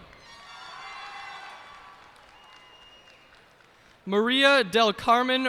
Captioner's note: cheers and applause